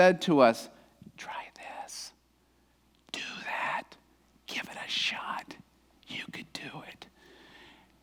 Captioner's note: whispers